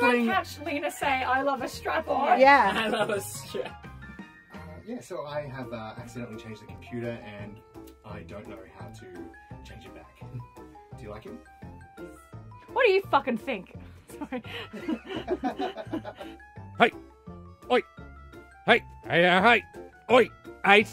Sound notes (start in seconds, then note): 2.5 laughs; 14.2 laughs